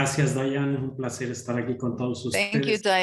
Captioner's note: speaking in Spanish